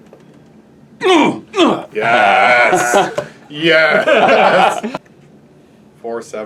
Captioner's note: grunting noises